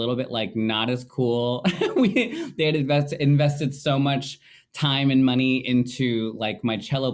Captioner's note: laughing